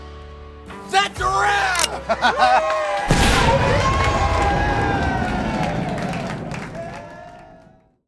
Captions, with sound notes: That's a wrap! [cheering] Gunshot. [applause]